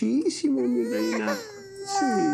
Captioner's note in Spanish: Llanto de la bebé